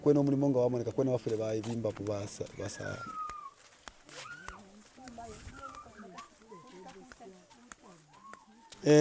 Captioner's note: male continues to speak in native language; male speaks in native language